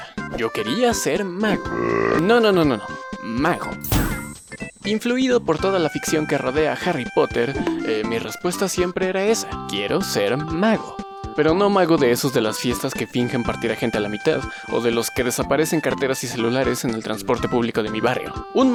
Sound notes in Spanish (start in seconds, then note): 3.6 Sonido de aparición mágica